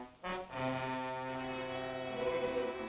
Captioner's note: none